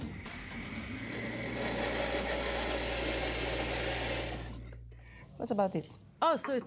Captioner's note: blender whirs